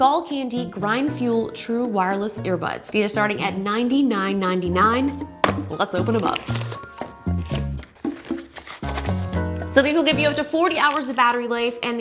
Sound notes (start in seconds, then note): 5.3 box crackling; 7.6 upbeat music